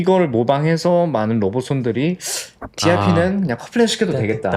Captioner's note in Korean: 콧방귀